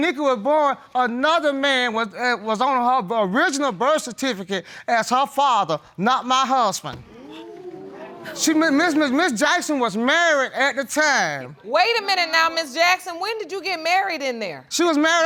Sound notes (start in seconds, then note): 7.1 audience gasp